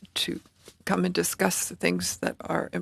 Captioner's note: speaking French